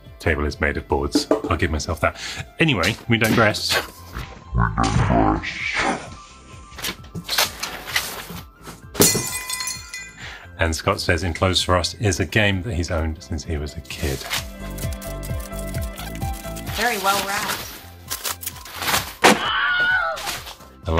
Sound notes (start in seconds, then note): 8.9 glass shattering noise; 14.5 upbeat music; 19.6 person yelling noise